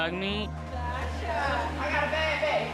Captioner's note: indistinct chatter